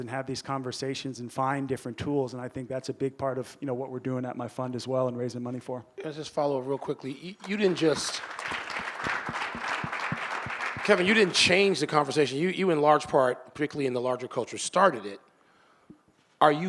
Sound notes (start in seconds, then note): 7.4 audience applauding